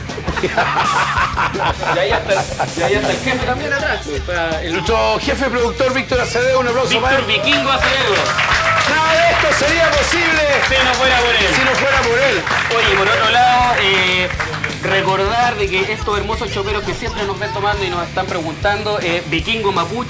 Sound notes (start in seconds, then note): 0.0 laughs; 9.0 applause